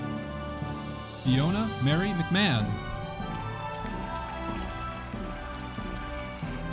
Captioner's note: audience applauding